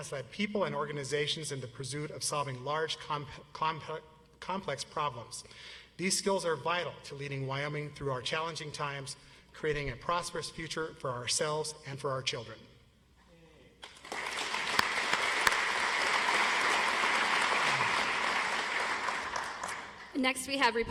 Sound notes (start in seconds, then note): 11.6 audience applauds